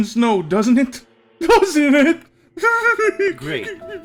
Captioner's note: crying